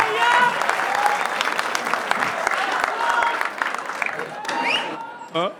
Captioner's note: crowd applauding